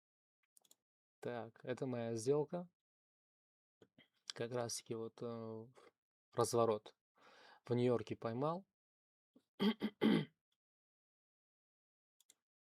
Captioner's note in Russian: кашель; откашливается